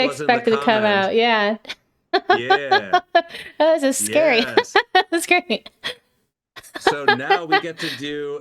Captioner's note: laughing